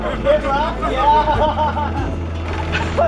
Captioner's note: laughter